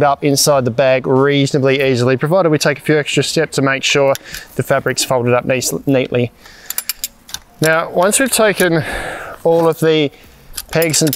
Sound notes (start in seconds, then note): 6.5 poles clinging